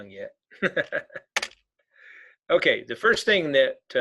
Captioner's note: laughing; keyboard clicking